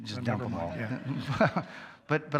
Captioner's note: all chuckle